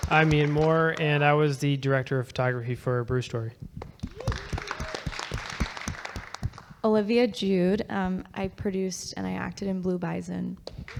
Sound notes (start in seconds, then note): 3.8 audience clapping; 10.8 audience clapping